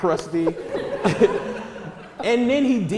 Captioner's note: audience laughter